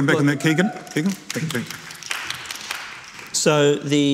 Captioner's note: audience applauding